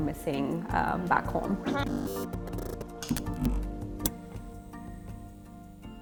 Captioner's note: digital screen buzzing